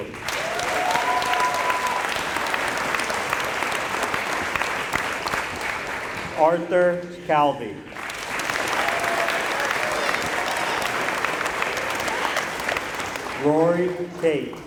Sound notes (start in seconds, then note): 0.0 applause; 7.8 applause